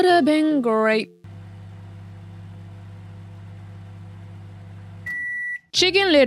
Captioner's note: microwave sound